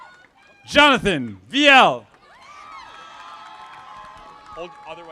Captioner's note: audience applauding